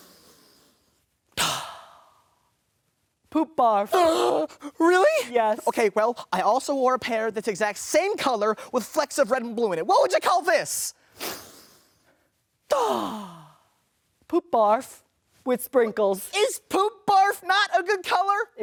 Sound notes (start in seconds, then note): 1.4 inhales; 4.0 gasps; 12.8 inhales